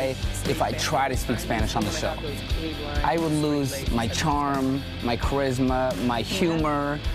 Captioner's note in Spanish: habla en ingés